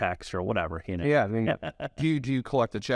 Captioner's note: laughs